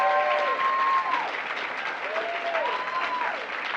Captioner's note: applause